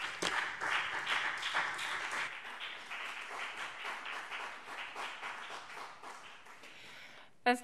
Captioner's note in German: Beifall BÜNDNIS 90/DIE GRÜNEN und CDU